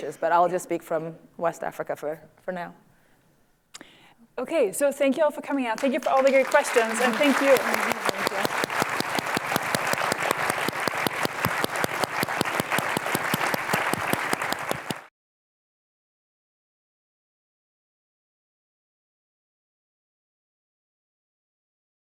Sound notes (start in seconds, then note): 8.7 applause